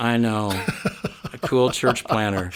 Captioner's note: laughing